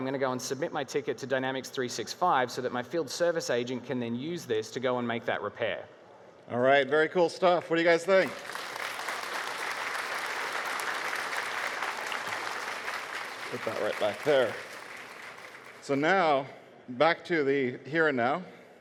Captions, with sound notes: and submit my ticket to Dynamics 365, so that my field service agent can then use this to go and make that repair. - Alright, very cool stuff, what do you guys think? (Audience cheering) Put that right back there. So now back to the here and now,